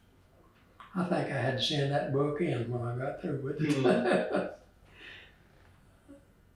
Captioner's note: laughs